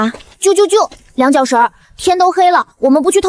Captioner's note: chirp chirp chirp